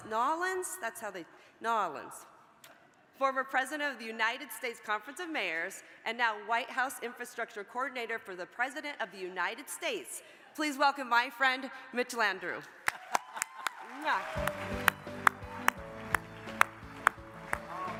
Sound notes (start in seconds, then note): 12.8 audience applauds; 14.0 upbeat music